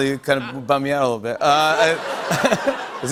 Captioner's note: laughter